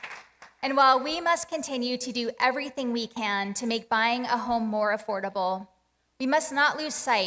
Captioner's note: applause